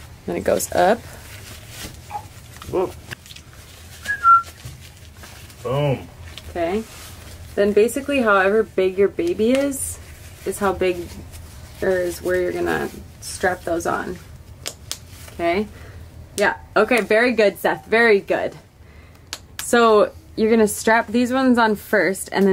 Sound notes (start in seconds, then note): 4.0 whistling